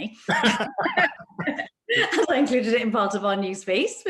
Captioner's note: laugh